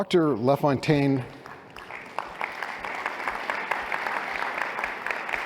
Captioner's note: applause